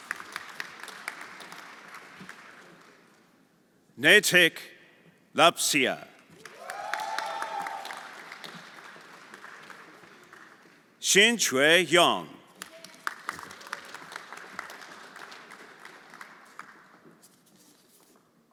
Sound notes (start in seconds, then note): 0.0 everyone applauding; 6.2 everyone applauding; 6.4 audience cheering; 12.6 everyone applauding